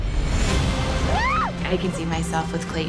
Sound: screams

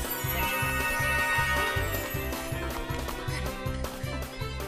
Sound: all panting

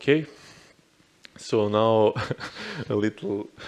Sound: chuckles

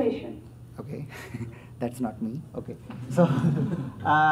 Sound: laughs; audience laughs

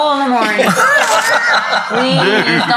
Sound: all laugh

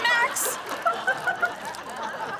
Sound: laughing

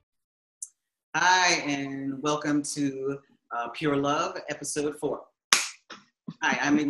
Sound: clap

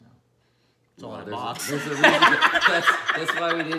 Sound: laughing

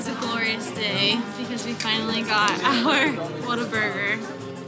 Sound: laughing

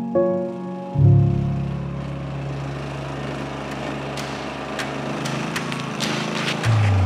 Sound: machine working

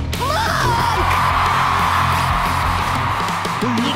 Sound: cheering

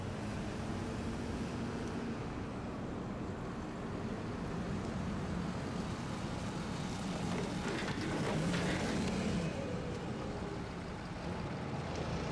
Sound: truck approaches

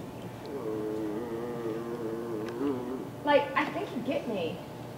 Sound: moaning

